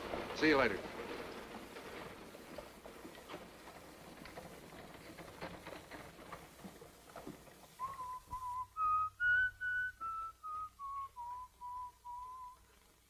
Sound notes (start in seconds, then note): 7.7 whistling